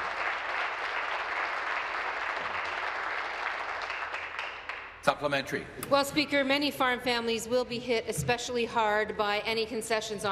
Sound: applause

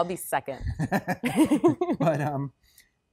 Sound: chuckles

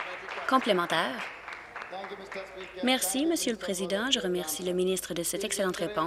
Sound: applause

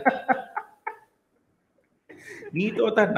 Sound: laughs

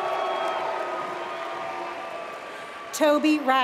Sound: applause

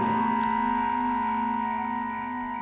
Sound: crickets chirp

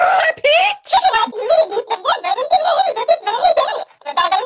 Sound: distorted audio

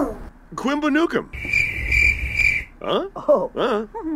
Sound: criket

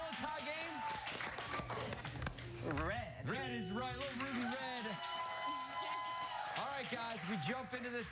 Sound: cheers and applause

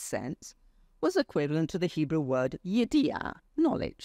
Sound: speaks foreign language

